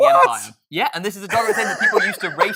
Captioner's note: laughing